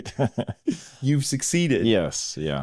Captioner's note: both laughing